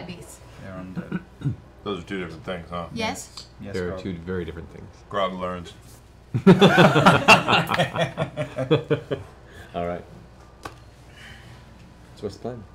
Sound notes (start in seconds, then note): 6.3 laughter